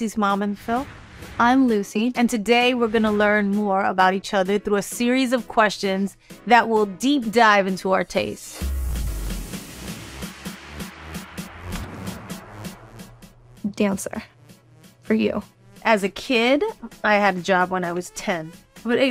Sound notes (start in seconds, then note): 0.4 text whooshing; 8.8 text whooshing; 8.8 upbeat music; 12.1 screen whooshing